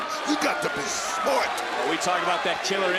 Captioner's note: crowd cheers